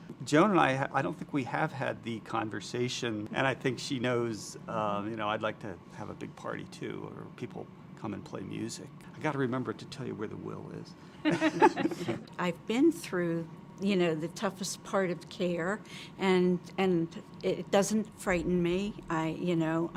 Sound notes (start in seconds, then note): 11.3 laugh